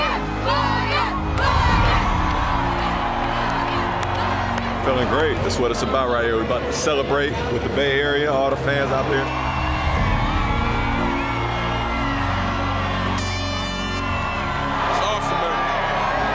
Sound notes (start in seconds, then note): 12.9 airhorn blaring